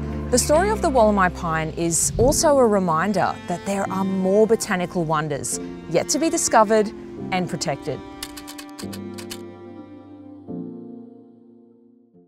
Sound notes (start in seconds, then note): 8.2 computer keys clicking; 8.2 gentle upbeat music